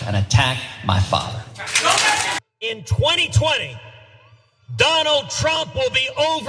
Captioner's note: applause